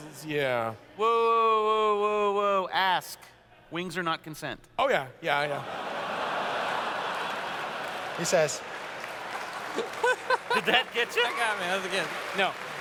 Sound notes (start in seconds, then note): 5.6 laughter; 9.7 laughs